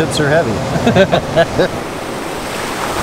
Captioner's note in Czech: Oba se zachechtají